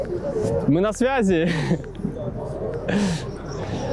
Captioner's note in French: rires